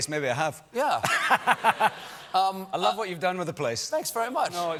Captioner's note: laughter